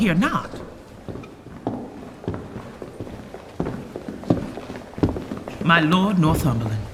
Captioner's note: approaching footfall